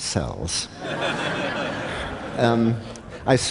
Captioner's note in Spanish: Risas